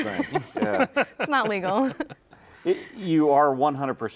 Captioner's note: all laughing